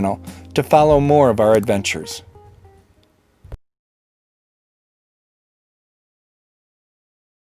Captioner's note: clicking